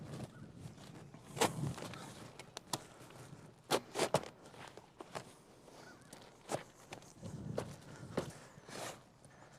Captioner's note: shoveling sounds